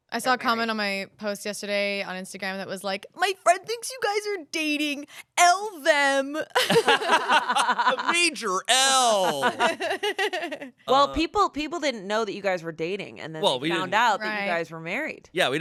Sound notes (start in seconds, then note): 6.6 everyone laughs; 8.7 laughs